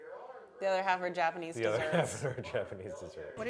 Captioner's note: chuckles